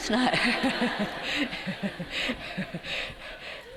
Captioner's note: laughter